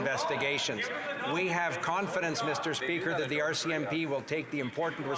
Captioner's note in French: voix de l'interprète